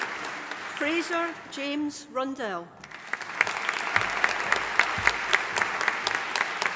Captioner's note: audience applauding